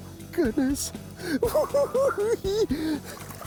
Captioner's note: cackling